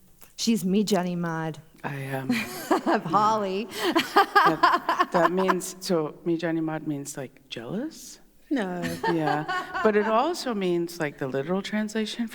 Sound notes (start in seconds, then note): 0.6 In Mi’kmaq; 3.7 laughter; 6.5 In Mi’kmaq